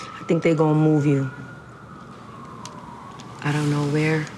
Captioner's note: sirens wailing